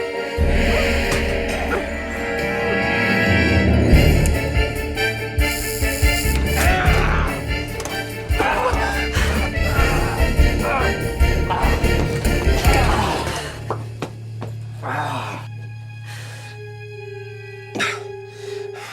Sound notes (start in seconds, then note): 5.7 mace spraying; 6.4 Roman groaning; 8.3 Maddie panting; 13.1 ominous music; 14.8 Roman groaning